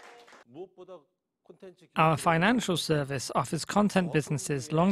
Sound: Korean

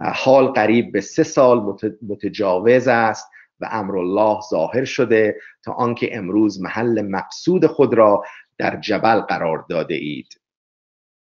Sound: persian words

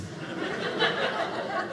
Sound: audience laughing

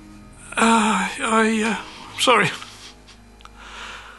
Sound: crying

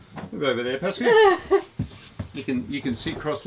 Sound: laughs

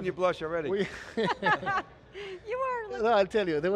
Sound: chuckles

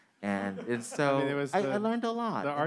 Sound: man laughing

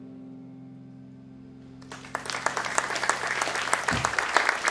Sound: cheers and applause

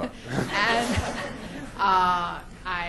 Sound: audience laughter

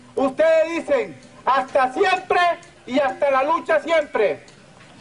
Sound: audio in Spanish

